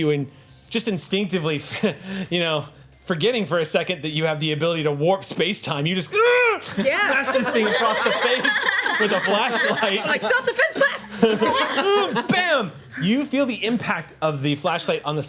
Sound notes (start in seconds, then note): 6.1 groans; 11.6 group laughs